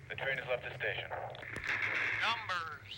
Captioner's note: static